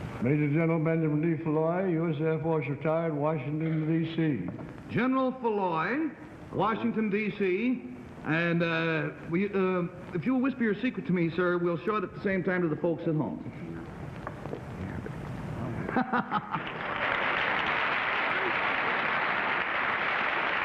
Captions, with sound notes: -Major General Benjamin D. Foulois, U.S. Air Force Retired, Washington D.C. -General Foulois, Washington D.C. And, uh-- If you'll whisper your secret to me, sir, we'll show it at the same time to the folks at home. -(whispering) -(laughing) (applauding)